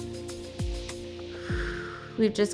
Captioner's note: exhales